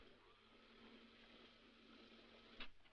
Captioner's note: none